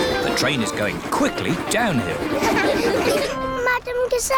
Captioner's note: laughter